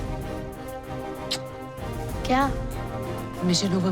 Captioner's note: kisses